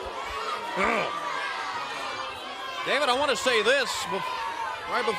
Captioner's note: crowd chatter